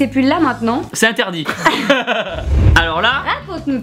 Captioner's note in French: Rires